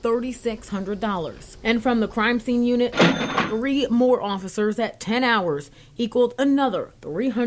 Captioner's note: nats money counting machine